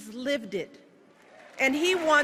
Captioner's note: applause